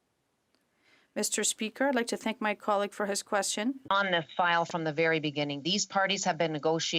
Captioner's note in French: voix de l'interprète